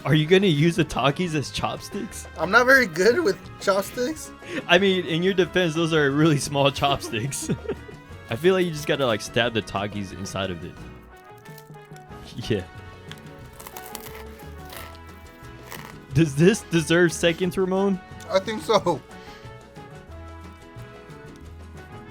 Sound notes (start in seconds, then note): 13.0 Takis crunch; 19.6 light music